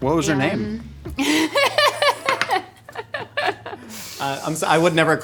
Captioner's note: laughing